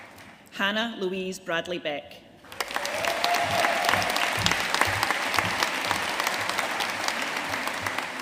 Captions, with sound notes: Hannah Louise Bradley-Beck. (AUDIENCE CHEERING AND APPLAUDING)